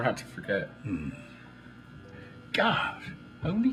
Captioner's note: Mr. Hooper murmurs in agreement